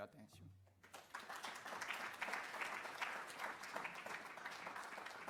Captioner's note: applause